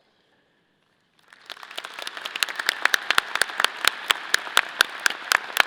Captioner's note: audience applause